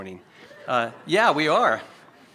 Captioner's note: audience chuckles lightly